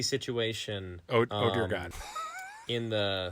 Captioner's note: laughing